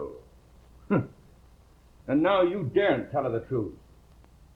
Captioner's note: scoffs